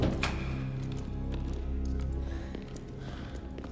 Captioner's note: door clicks; footsteps tapping